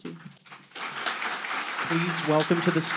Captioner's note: audience applauding